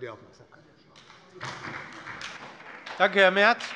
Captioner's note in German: Beifall bei der SPD